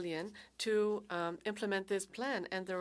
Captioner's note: speaking French